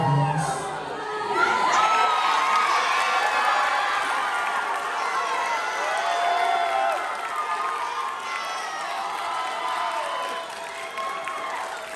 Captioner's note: applause